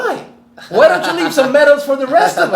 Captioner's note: laughs